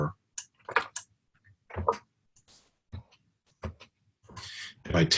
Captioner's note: typing Sounds